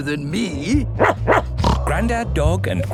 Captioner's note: barking, snorting